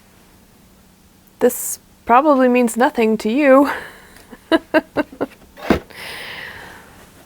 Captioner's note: laughs